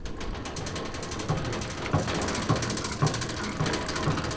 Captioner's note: machine clatters